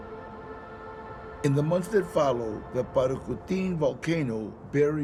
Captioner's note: in English